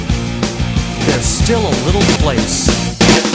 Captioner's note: aggressive knock